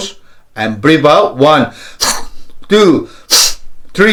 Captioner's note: deep breaths